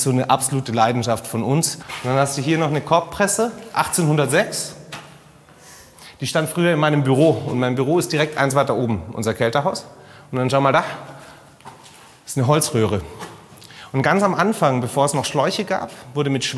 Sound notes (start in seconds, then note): none